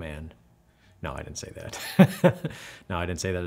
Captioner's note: laughs